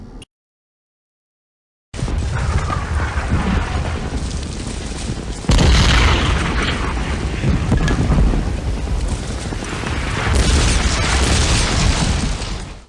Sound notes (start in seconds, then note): 0.0 beeping; 0.2 gunfire; 9.8 gunfire